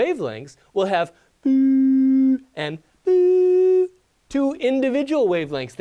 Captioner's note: making sound effect